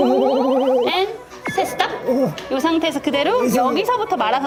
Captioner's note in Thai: การหายใจสั่นๆ แบบสไตล์ไอดอล